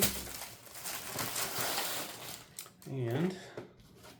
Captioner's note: paper rustling